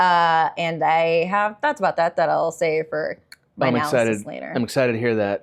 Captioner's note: click